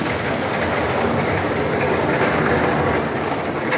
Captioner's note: loud bumping of the wagon wheels